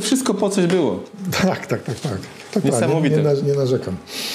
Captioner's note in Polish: śmiech